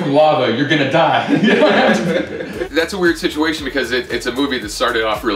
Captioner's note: laughter